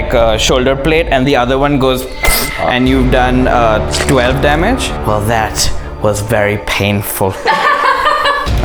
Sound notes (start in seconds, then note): 2.0 fwsh!; 7.4 laughter